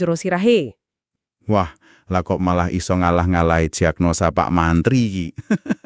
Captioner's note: chukels